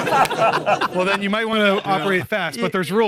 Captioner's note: all laughing